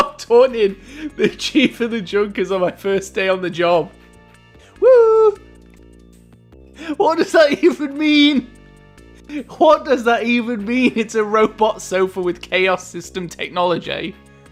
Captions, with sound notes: I like how I'm taunting the chief of the Junkers on my first day on the job. (taunting) Woooooohoooo! What does that even mean?! What does that even mean?! It's a robot sofa with chaos system technology?!